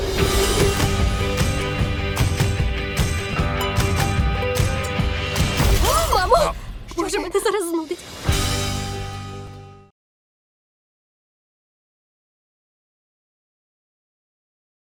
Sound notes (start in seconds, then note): 5.8 woman yelps; 8.2 music fades